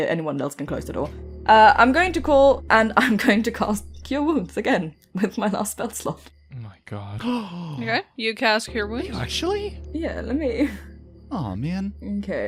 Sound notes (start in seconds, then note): 7.1 gasps